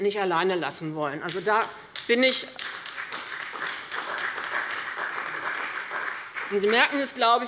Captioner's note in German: Beifall bei dem BÜNDNIS 90/DIE GRÜNEN und der CDU